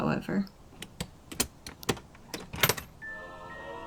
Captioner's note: chest unlocks